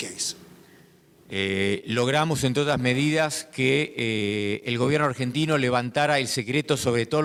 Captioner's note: speaking in foreign language